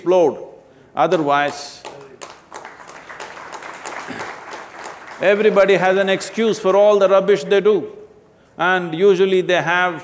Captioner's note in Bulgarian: Ръкопляскане